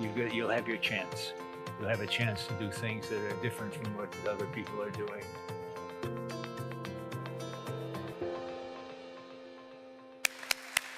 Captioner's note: applause